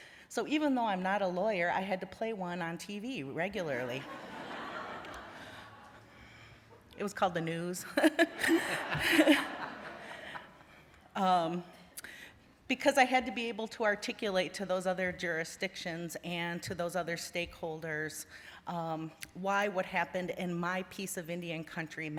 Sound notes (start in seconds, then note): 4.0 laughter; 7.9 laughter; 8.0 laughs